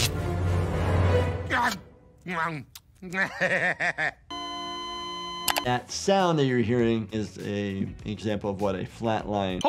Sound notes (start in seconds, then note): 0.0 tense music; 3.0 Bender gags and laughs; 4.3 heart monitor beeps